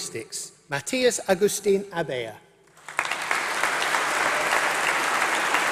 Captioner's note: applause